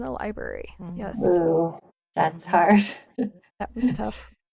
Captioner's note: laughs